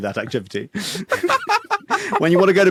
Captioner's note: cackles